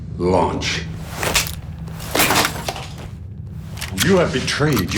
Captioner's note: cracking